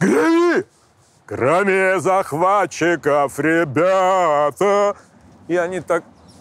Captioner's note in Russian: напевает с басом